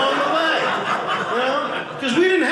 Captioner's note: audience laughing